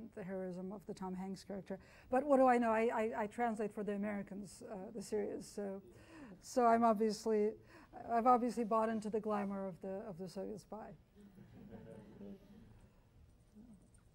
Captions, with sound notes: and the heroism of the Tom Hanks character. But what do I know. I translate for the Americans, the series, so I've obviously bought into the glamour of the Soviet spy. (chuckling)